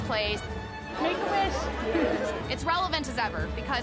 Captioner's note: laughs